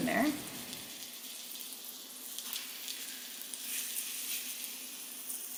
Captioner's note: chicken sizzling